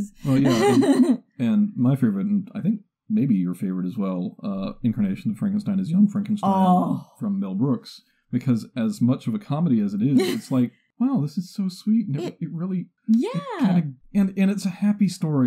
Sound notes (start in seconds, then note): 0.2 chuckles; 0.2 laughs; 12.0 stammers with joy; 13.0 laughs; 13.5 stammers